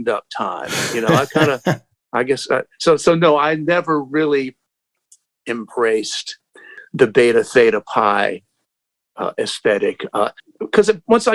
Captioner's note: laughter